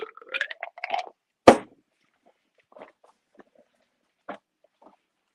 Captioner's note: ice clinks; tumbler thuds